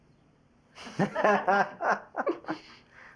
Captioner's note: laughs